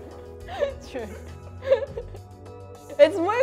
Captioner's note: chuckling